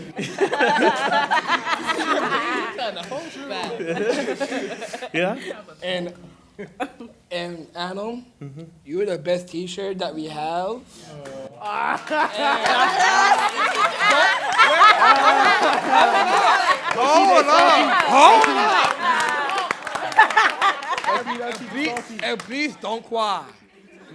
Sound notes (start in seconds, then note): 0.0 simultaneous chatter and laughter; 11.3 simultaneous chatter and laughter